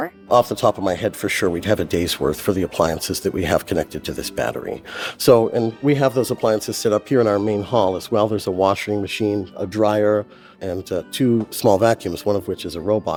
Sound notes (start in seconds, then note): none